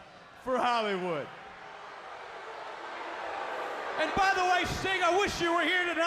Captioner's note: crowd booing